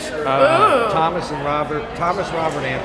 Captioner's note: woman exclaims in excitement